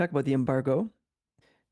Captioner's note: speaking French